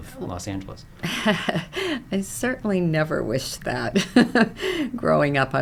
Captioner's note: laughs